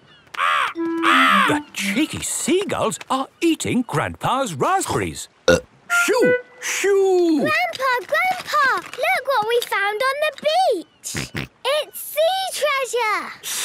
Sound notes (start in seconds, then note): 0.4 seagulls cries; 5.6 burp